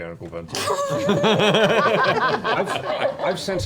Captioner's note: laughter